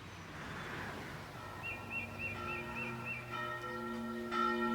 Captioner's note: church bells chiming